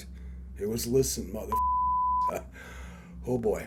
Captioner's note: beeps